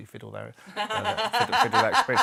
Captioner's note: laughter